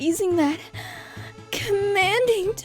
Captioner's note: sigh